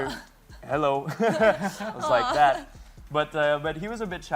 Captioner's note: laughs